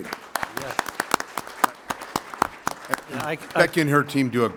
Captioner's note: applause